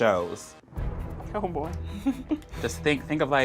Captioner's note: laughs